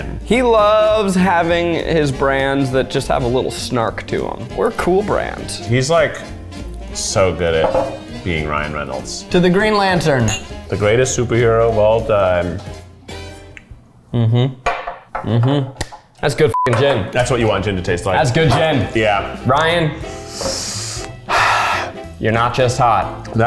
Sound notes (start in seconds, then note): 16.5 beep